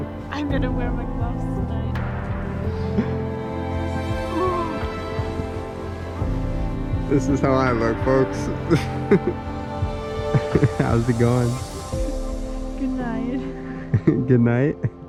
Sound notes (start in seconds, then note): 5.0 shivering